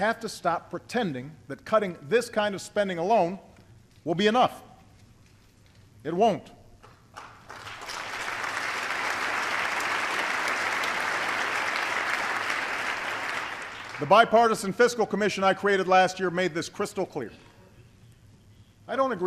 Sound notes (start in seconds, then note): 10.1 applause